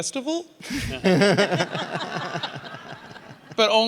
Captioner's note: audience laughing